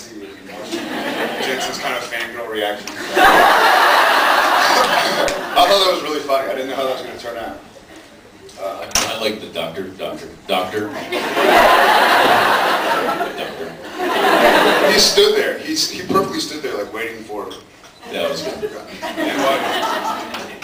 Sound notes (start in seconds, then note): 3.0 laughs; 11.0 laughs; 18.1 laughs